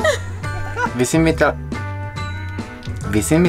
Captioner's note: laughing